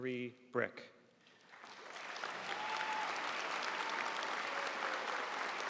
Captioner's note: audience applauding